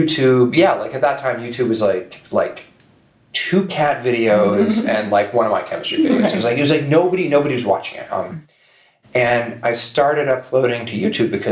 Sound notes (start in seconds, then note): 4.4 chuckles